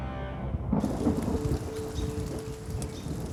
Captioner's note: thunder and rain; birds chirping